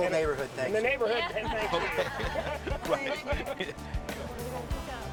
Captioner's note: everyone laughing